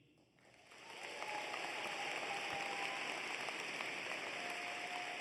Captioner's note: cheers and applause